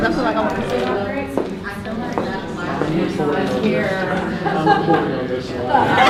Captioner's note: participants talking and laughing at once